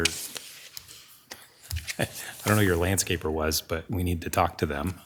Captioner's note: chuckles